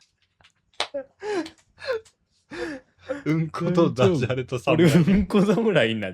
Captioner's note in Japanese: 笑い; 息をのむ音